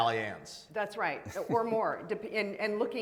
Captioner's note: laughing